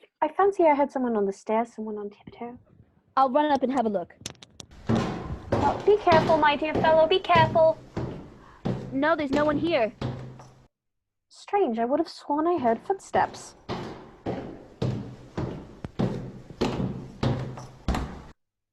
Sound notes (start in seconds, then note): 4.7 steps up stairs, receding; 12.6 steps down stairs, approaching